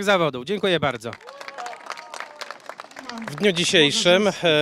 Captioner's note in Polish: oklaski